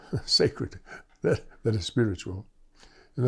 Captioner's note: laughter